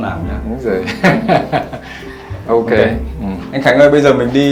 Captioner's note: laugh